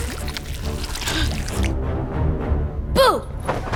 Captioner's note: gasps